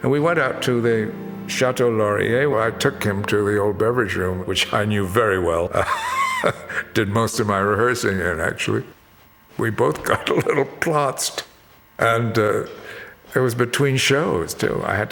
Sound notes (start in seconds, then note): 5.7 chuckles